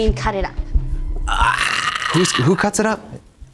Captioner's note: Katya hoots